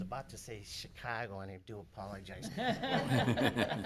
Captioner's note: laughing